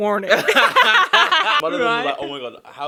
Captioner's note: laughing